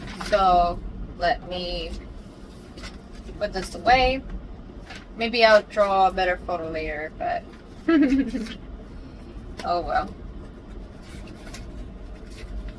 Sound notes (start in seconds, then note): 7.9 laughs